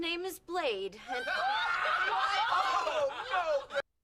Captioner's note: hysterical laughing